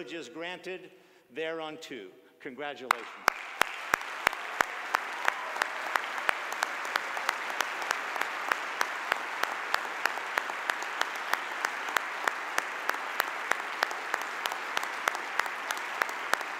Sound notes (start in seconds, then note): 2.9 audience applause